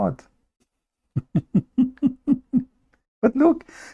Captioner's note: Ketawa